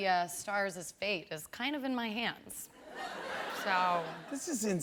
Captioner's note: laughter